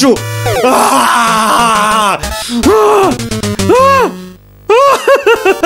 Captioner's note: screams in agony; starts crying in agony